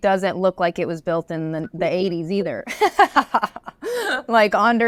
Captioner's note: laughs